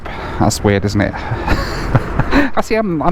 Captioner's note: laughs